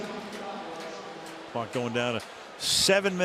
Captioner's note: pa announcement